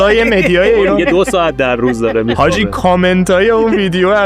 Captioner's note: laughs